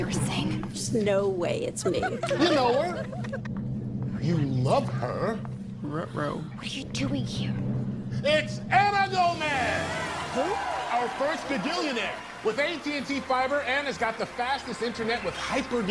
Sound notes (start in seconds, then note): 1.8 friends laughing